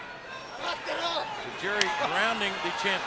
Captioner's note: Tajiri speaking in Japanese